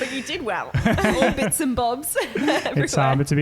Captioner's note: laughing